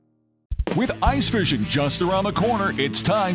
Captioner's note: voiceover